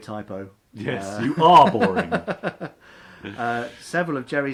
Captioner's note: laughs